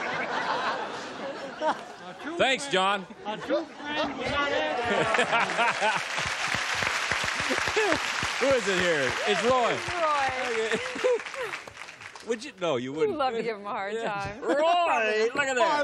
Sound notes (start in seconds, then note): 0.0 laughter; 6.8 applause; 7.2 laughs; 10.4 laughter